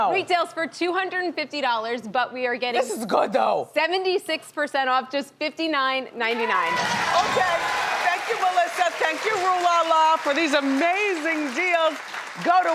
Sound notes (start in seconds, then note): 6.4 audience cheers